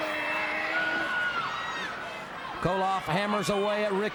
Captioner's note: crowd chatter; crowd cheering